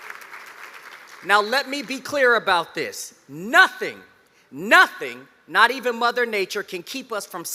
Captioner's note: applause